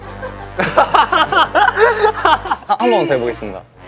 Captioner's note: hahaha